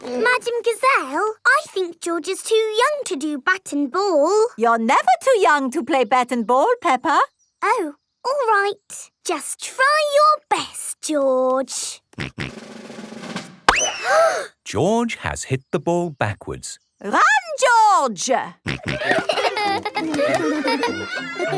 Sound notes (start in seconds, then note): 13.4 bang; 13.8 children gasp